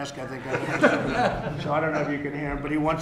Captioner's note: laughter